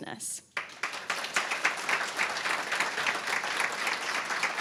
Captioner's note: applause